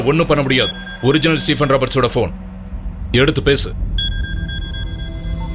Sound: phone rings

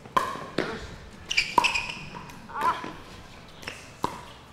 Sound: ball bouncing

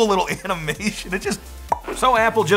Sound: mouth pops

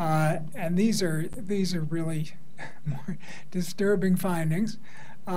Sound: laughs

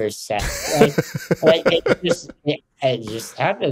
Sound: Justin laughs

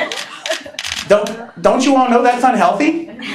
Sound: laughing

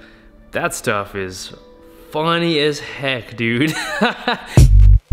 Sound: laughs

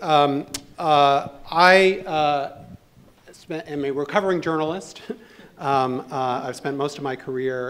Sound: laughs

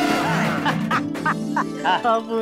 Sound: laughing

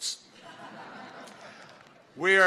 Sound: laughter

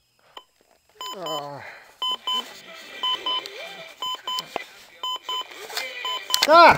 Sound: alarm clock beeping

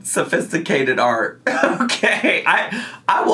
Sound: laughing

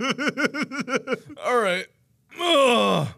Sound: continues to die laughing; strained; groan

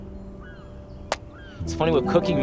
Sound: wood cracking

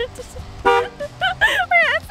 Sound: singing; truck horn

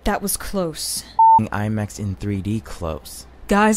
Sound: beep

